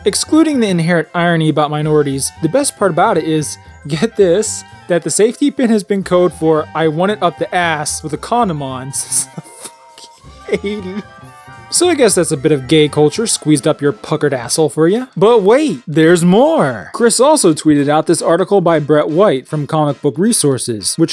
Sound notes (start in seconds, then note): 4.9 trying to contain laughter